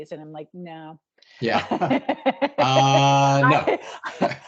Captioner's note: laughing